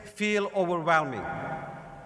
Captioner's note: none